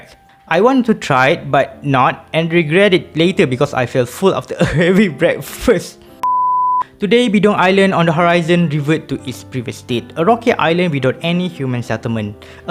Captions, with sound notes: I did not try it and regret it later because I felt full after a heavy breakfast (beep) Today, Bidong Island on the horizon revert to its previous state - a rocky island without any human settlement